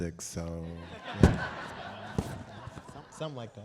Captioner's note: audience Laughing